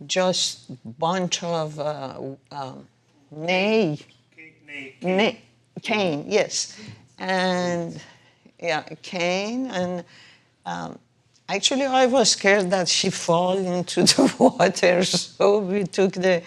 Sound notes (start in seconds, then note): 1.8 speaking foreign language